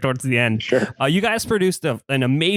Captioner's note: laughs